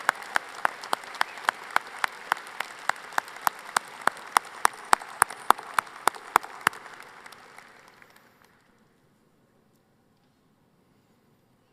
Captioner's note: applause